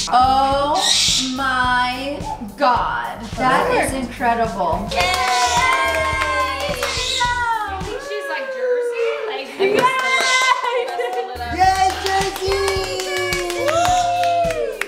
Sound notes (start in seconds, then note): 4.5 group cheering; 9.7 clapping